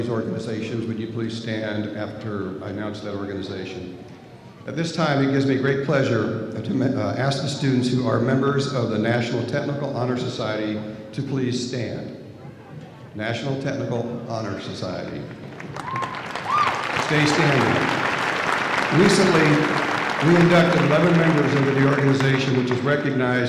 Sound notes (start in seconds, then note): 15.4 cheers and Applause